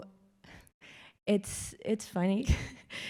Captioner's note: laughs